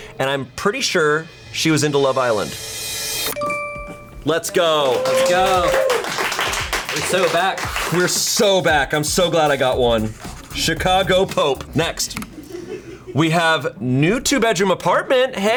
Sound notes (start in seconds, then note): 4.7 colleagues applauding; 12.2 colleagues laughing